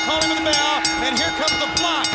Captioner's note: bell ringing